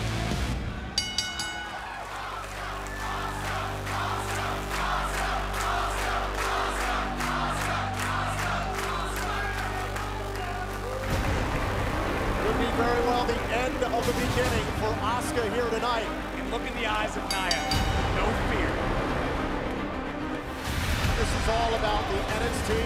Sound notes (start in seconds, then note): 0.9 bell ringing; 5.8 fans chanting; 17.0 bell ringing